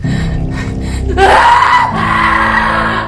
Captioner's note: Allyson screams